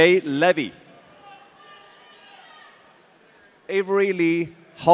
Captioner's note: audience cheering